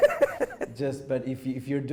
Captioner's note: laughs